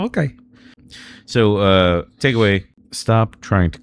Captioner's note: uh